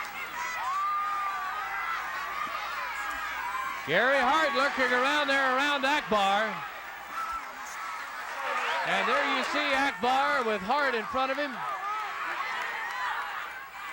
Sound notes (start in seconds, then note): 0.5 audience cheering